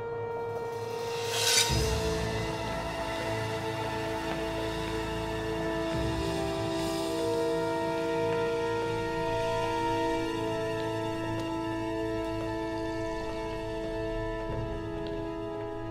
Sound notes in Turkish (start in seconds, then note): 1.2 Kılıç çekme sesi; 2.2 Müzik - Gerilim